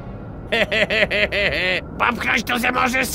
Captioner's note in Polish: śmiech rudego